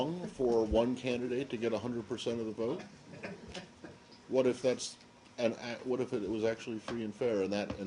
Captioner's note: laughter